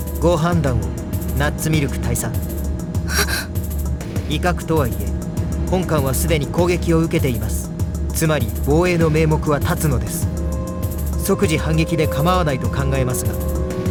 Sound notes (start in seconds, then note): 3.2 gasp